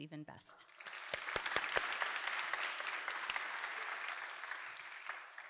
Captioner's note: applause